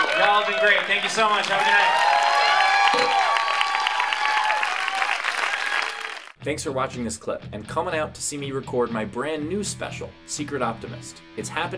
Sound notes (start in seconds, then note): 2.0 applause